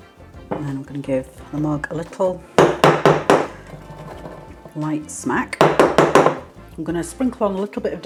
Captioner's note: bang bang bang